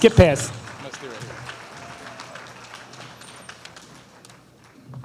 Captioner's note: applause